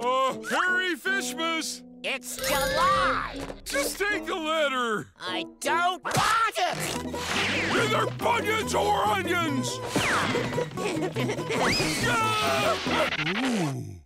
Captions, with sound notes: -Merry Fishmas! -It's July! -Just take a letter! -I don't want it! Either funyuns or onions! [screaming]